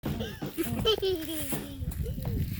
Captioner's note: laughing